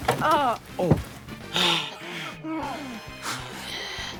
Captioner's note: wheezing